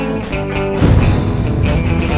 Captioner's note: boom